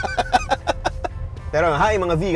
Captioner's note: laughs